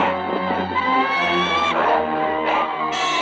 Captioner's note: bird squawking